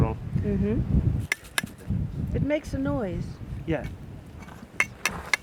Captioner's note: clinks